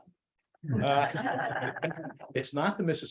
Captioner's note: laughter